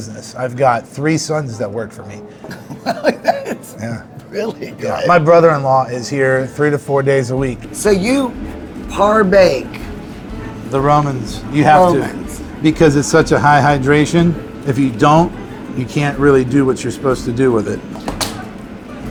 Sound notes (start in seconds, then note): 2.4 laughs